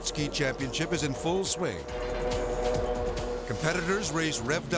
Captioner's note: engine revving